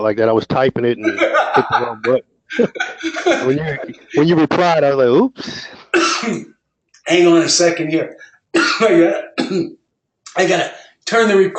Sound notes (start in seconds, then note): 2.5 laugh